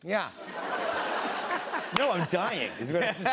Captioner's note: laughter